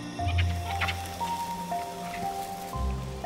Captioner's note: monkeys chattering